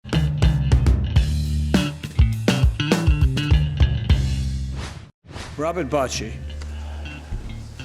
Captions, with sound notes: (upbeat music) (whooshing) Robert Bochie.